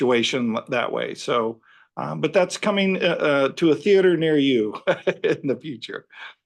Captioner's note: laughs